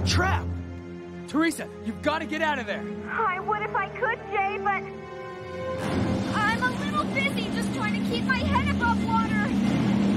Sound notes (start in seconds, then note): none